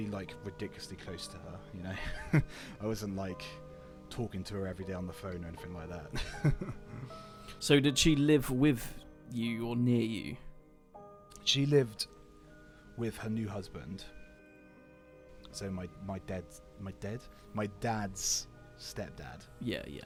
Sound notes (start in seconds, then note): 6.2 laughs